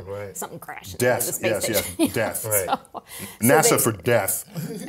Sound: laugh

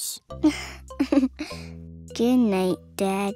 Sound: giggles

